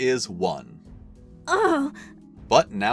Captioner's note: pained groan